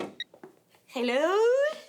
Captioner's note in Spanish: Suena el teléfono